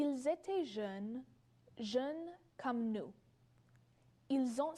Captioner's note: speaks French